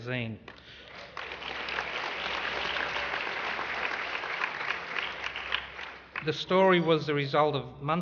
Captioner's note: applause